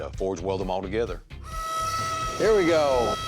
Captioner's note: machine ringing